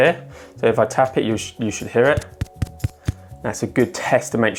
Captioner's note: taps the microphone